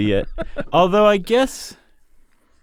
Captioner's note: laughter